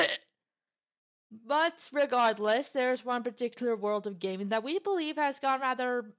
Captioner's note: coughing